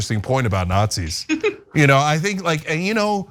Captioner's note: laugh